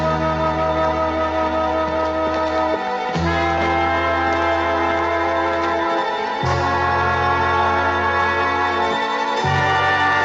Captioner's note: تصفيق